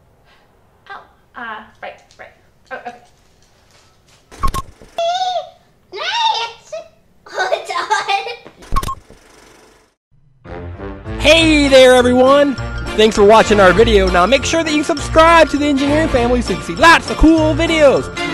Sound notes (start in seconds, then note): 4.4 beep; 5.2 singing; 8.4 laughs; 8.7 beep; 10.3 bouncy music